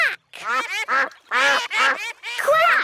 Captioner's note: quacking